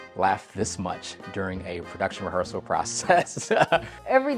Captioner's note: laughs